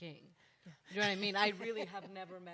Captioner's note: panel members laugh